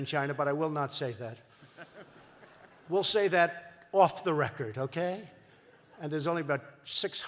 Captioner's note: laughter